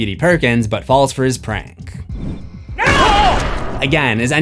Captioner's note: screams